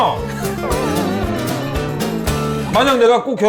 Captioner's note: whimper